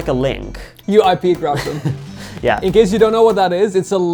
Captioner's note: laughing